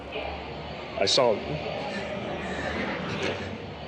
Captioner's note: crying